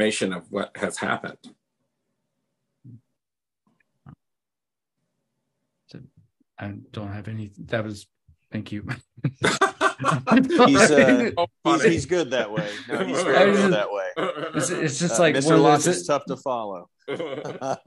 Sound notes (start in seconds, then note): 12.2 laughs